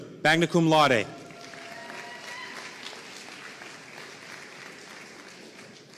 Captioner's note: audience cheering and applauding